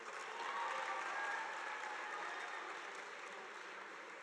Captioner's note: audience applauding